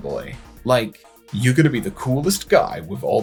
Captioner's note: macho voice